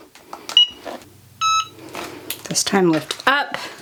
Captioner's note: EasyPress beeping